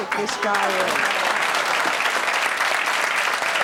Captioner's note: clapping